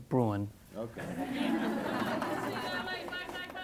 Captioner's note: laughs